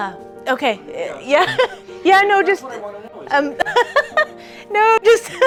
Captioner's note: laughs